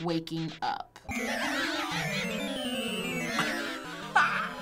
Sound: Flowey cackling; laughing

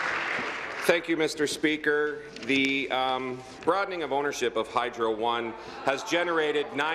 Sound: applause

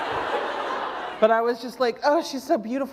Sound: laughter

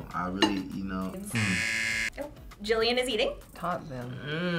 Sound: buzzer rings

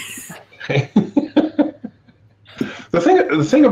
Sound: all laughing

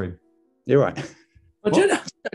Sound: laughs

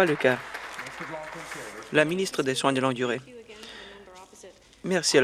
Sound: some Applause

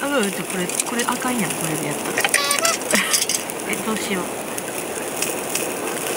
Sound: laughs

